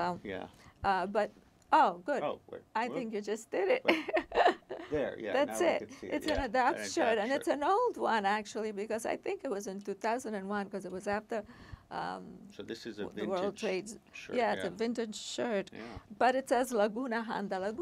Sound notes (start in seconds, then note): 4.4 laughing